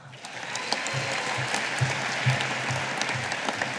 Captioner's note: audience applauding